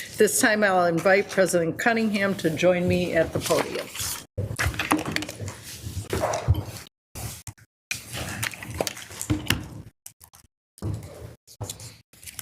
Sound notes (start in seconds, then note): none